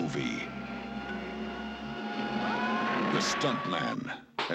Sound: screams

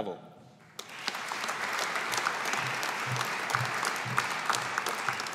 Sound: audience applauding

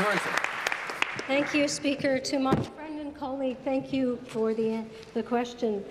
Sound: applause

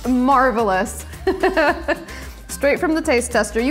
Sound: laughs

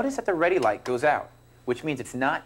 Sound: button clicks

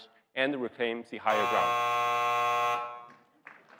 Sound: buzzer sounding; audience applauding

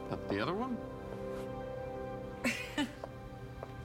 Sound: laughs

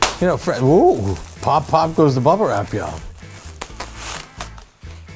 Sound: plastic bubble pop sound

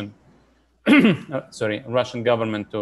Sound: clears throat

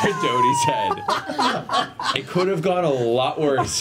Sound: all laugh

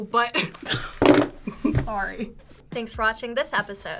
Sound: chuckles

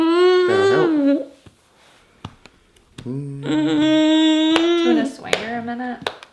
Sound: cries

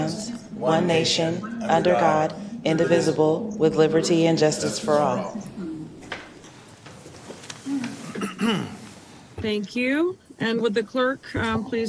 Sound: reciting the pledge of allegiance

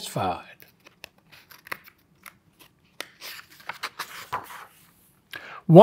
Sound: pages rustling

